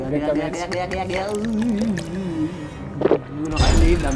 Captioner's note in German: Bedrohliche Musik; Mystische Laute, Schlucken